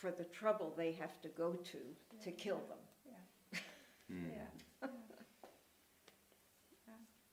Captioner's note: quietly